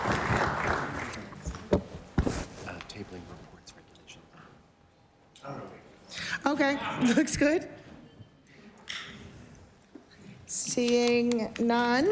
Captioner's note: applause